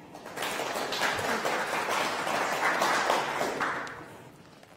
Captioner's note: clapping